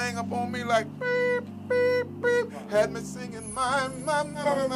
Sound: brrrp

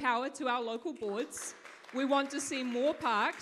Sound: audience claps

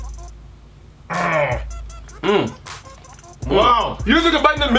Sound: grunting

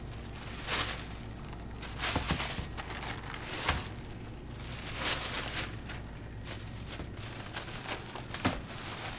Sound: sound of putting things in a plastic bag

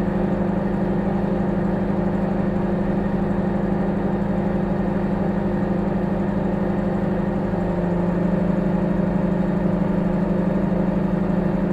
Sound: microwave humming

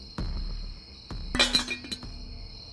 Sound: glass fall

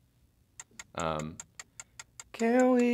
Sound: ticking

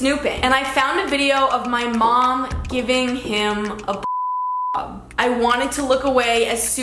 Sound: beep

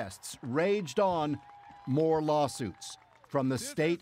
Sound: applause

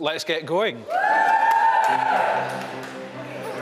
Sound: applause and cheering

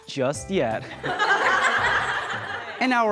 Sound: chuckling

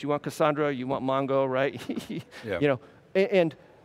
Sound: laughs

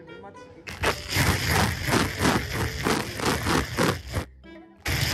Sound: laughs ♡

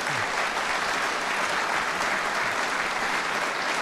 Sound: audience applauds

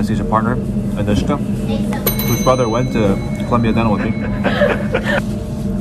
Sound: bell rings

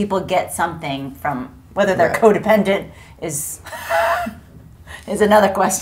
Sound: laughs

